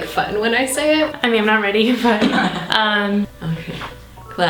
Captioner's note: laughter in background